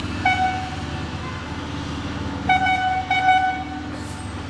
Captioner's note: machinery sounds